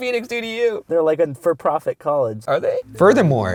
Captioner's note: voiceover